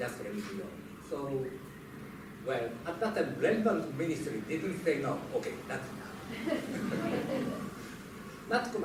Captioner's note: laughter